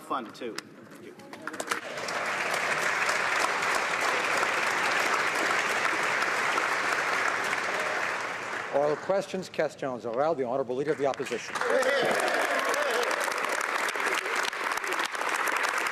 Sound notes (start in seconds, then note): 6.4 applause; 13.2 speaking French; 15.7 some Applause